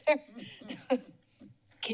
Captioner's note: laughter